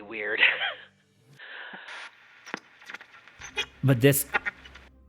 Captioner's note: sighs; chuckles; static